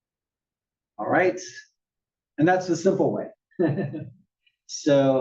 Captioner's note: laugh